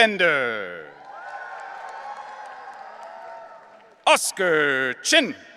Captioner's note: audience cheering